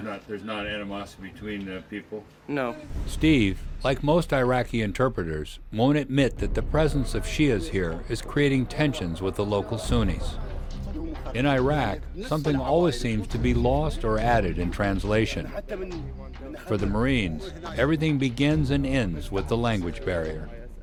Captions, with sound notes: - [Voiceover] Steve, like most Iraqi interpreters, won't admit that the presence of Shia's here is creating tensions with the local Sunnis. In Iraq, something always seems to be lost or added in translation. For the Marines, everything begins and ends with the language barrier.